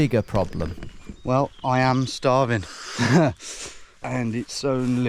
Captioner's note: laughs